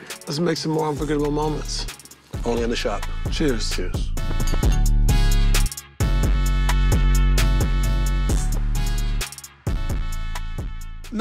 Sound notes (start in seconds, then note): 5.4 glasses clink; 8.4 smooth hiphop music